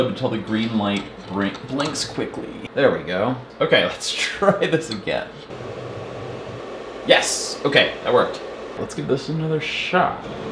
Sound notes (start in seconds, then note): 5.5 machine whirs